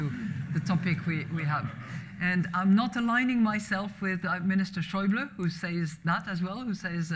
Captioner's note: laughter